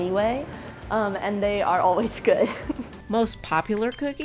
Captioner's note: chuckles